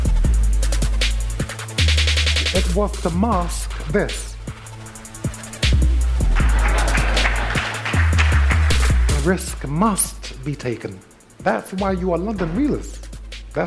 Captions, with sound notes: (intense music) It was to mask this. (audience applauding) A risk must be taken, that's why you're London Realers.